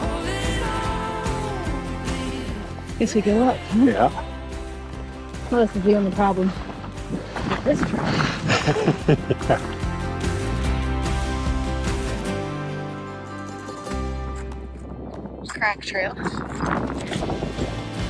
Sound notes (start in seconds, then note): 10.3 laughs; 12.0 upbeat music